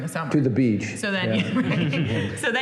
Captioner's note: laughter